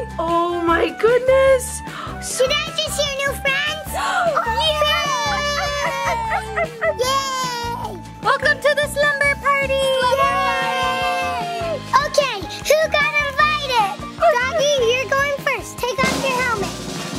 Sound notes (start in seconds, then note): 4.0 all cheering